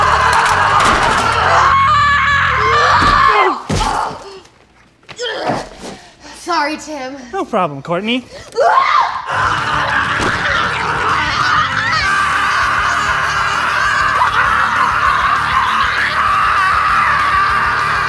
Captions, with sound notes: - Sorry, Tim. - No problem, Courtney. (both screaming)